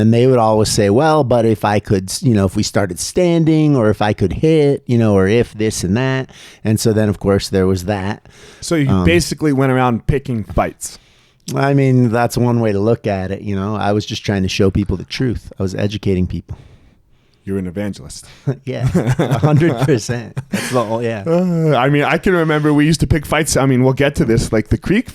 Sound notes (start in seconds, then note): 18.8 laughing